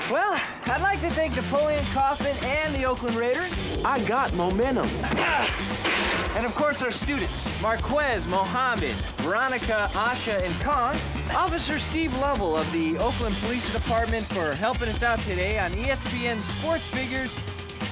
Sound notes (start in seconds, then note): 5.0 grunting